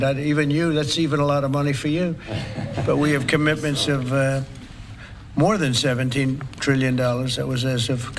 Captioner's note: laughter